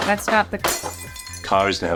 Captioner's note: glass shattering